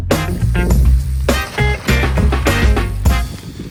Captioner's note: wheels whirring